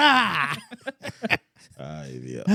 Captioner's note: speaking Spanish